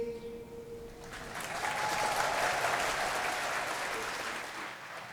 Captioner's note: applause